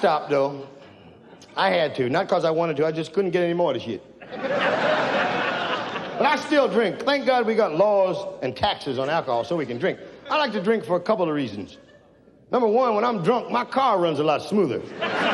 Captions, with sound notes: I stopped though. I had to. Not 'cause I wanted to, I just couldn't get any more of the shit. (audience laughs) But I still drink. Thank god we got laws and taxes on alcohol so we can drink. I like to drink for a couple of reasons. Number one, when I'm drunk, my car runs a lot smoother.